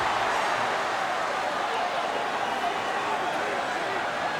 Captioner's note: crowd murmuring